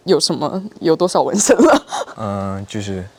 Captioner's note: laughs